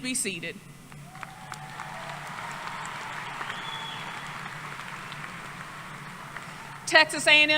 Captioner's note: applause